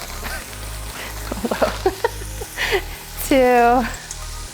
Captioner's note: laughs